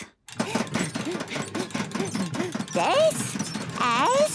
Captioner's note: panting